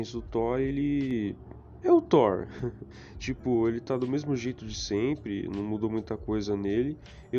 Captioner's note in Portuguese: Risadas